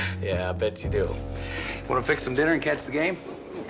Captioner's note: laughing